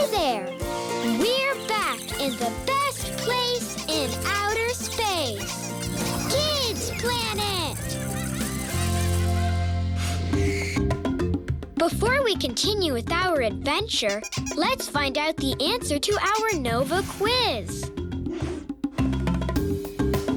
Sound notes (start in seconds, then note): 0.0 upbeat instrumental music; 5.5 squeaking; 14.0 squeaking; 18.7 squeaking